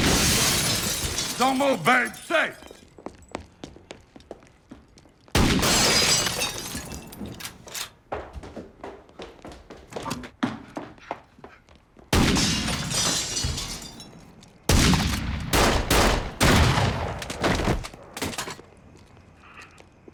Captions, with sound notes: (gunshot booming) (glass shattering) Don't move, Ben. Stick. (gunshot booming) (glass shattering) (footsteps tapping) (gunshots booming)